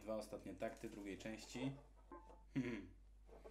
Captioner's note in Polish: random chuckle